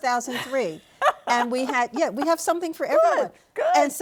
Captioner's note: laughs